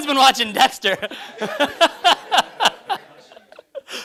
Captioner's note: laughter